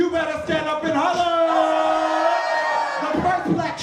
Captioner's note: cheering